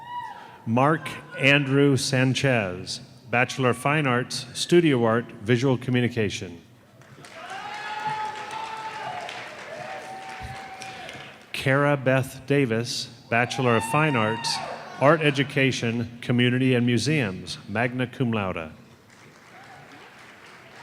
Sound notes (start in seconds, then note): 13.6 cheers and applause